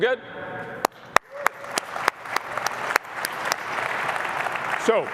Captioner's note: applause